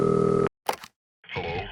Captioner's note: dial tone; phone click; Emo Dark Jedi Voice